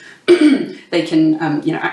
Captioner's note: clears throat